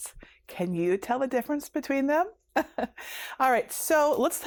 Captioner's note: chuckles